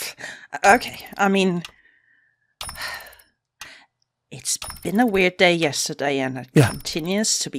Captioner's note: sighs